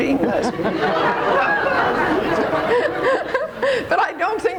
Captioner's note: audience laughs